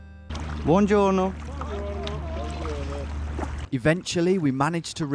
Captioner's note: speaking in a foreign language